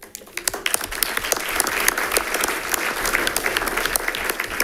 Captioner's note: audience applauding